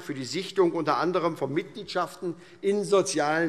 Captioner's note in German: none